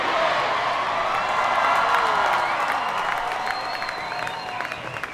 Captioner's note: applause